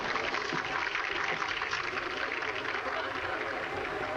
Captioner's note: applause; indistinct chatter